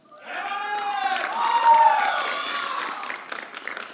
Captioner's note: applause